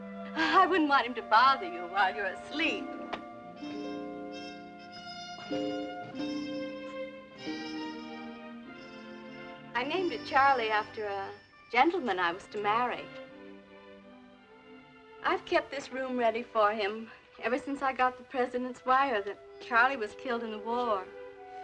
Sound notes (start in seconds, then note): none